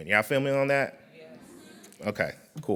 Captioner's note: crowd